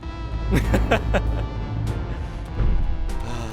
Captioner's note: laughs